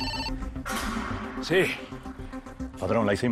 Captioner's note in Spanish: Suena un celular